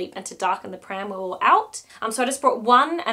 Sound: none

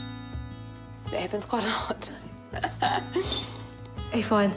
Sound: laughs

